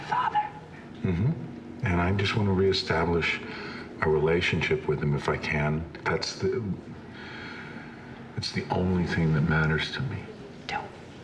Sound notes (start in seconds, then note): 6.9 sighs